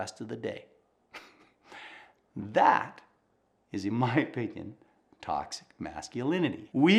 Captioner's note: laughing